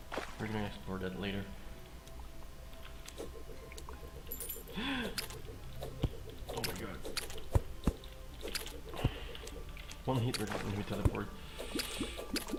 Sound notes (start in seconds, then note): 4.7 gasp!; 8.3 sigh; 9.0 gasp